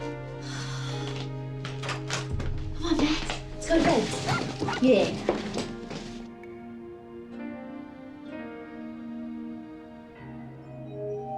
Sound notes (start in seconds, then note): 0.4 exhales; 4.2 max barking